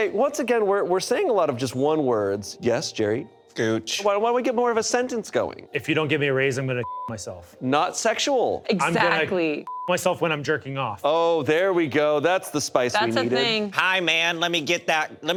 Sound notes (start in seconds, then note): 6.8 beep; 9.6 beep